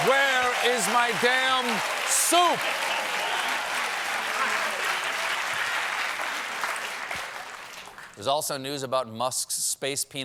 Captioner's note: cheers and applause; applause